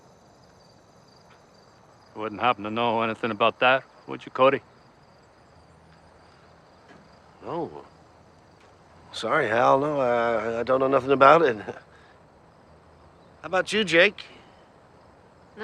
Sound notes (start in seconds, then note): 11.4 chuckling